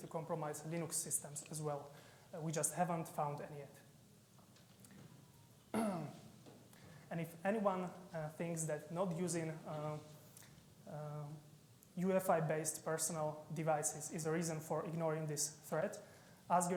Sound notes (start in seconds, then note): 5.7 clearing his throat